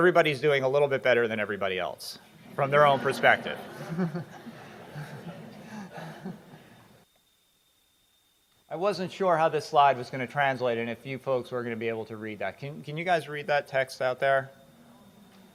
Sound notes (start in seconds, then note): 5.8 laughing